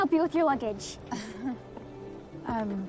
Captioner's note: chuckling